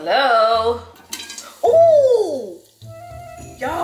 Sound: sighs; pops

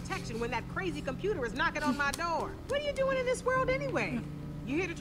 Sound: tapping

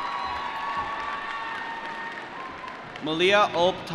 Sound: applause

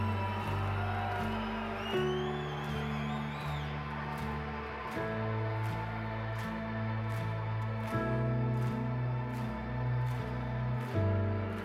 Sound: cheering

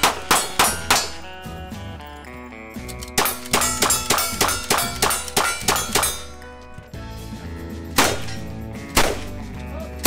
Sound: gunshots/plinking sounds

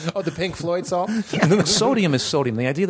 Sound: laughter

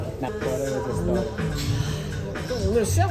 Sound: deep breath

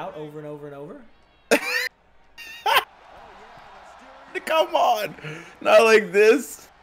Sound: laugh

